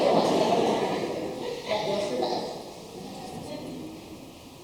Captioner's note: laughing; audience laughs